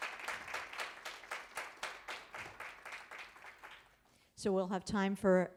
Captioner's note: applause